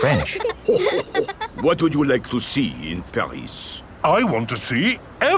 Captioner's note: chuckles